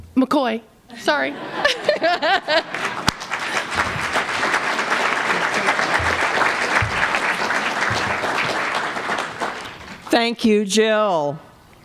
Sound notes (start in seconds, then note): 1.0 laughter; 2.5 applause